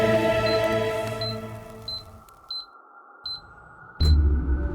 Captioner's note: beeping